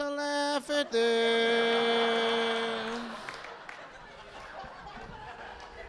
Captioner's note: audience laughing